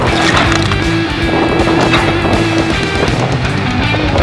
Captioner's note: wind blowing